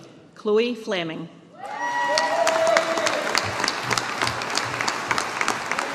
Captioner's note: audience applauding